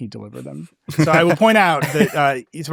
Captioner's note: laughs